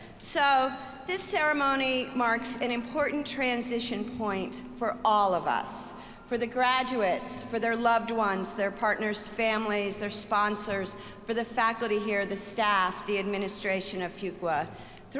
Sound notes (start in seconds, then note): none